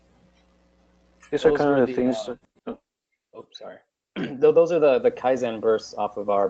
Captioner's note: cough